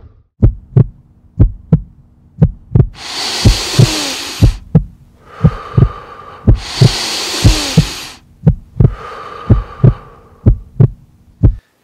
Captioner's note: heart beating sound